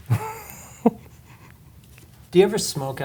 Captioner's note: laughs